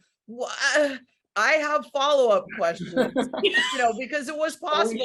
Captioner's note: others laughing